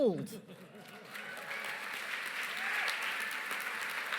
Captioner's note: cheering, applause